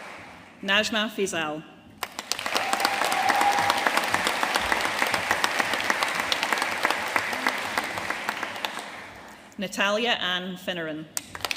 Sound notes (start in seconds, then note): 2.0 audience cheering and applauding